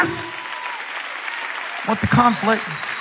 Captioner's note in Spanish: Aplausos